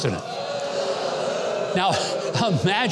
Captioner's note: scattered boos